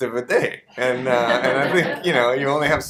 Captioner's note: audience laughter